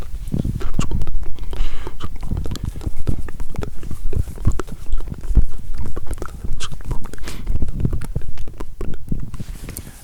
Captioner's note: unstructured mumbling